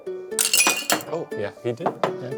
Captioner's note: ice clanking